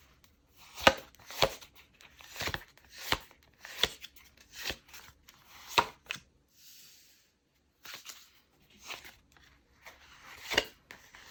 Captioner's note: drawing cards